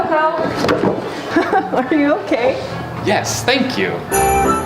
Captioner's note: laughing